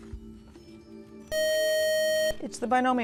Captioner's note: beeping